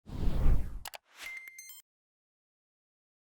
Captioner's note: whooshing sound